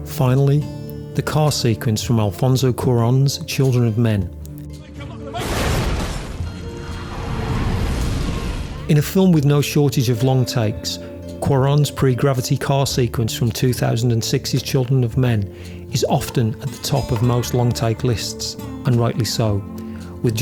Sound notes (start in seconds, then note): 5.1 man shouting; 5.9 car slams and screeches